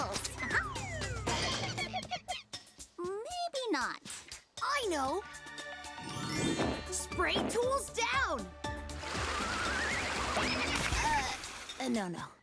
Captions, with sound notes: (monkey cries) Maybe not. - I know! Spray tools down! (monkeys laughing) Uh, no, no.